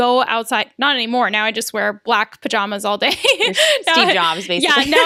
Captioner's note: laughs